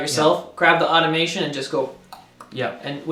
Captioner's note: tongue click